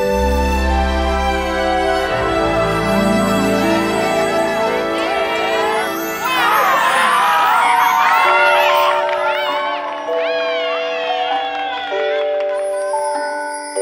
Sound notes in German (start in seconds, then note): 0.2 Gefühlvolle Musik; 6.0 Stimmengewirr, Jubel